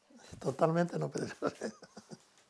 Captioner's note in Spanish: ríe